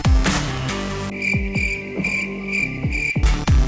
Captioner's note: crickets chirping